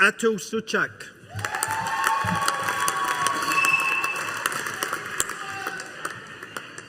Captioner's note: audience applauding